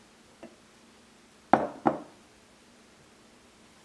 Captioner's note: glass on wood sound